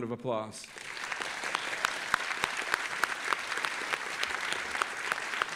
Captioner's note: audience applauding